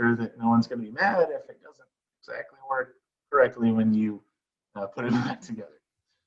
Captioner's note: chuckles